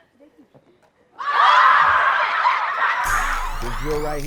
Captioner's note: cheering